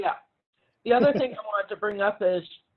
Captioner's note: laughs